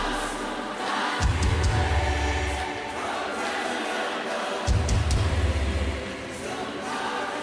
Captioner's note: crowd worshipping